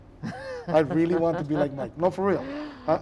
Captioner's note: laughing